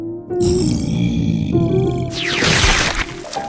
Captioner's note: sighs in annoyance